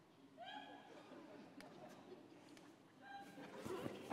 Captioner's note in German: vereinzelte Lacher